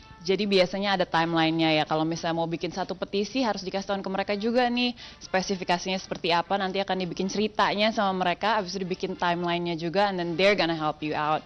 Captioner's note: non-english speech